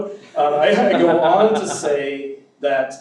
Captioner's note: audience laughs